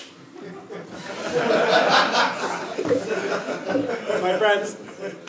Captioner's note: laugh